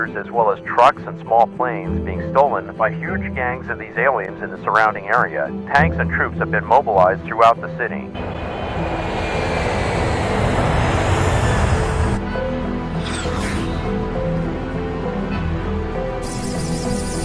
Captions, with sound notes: as well as trucks and small planes being stolen by huge gangs of these aliens in the surrounding area. Tanks and troops have been mobilized throughout the city. (jet engines as music continues to play)